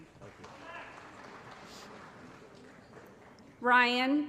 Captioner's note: applause